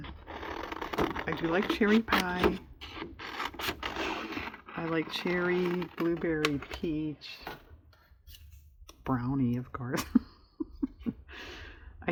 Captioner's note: laughs